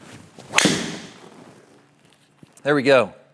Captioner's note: swing whoosh